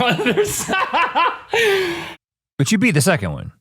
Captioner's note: laughs